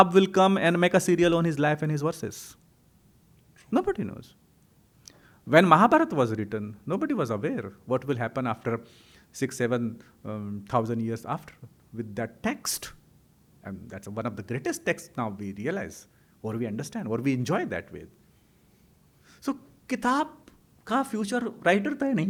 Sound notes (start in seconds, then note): 19.8 hindi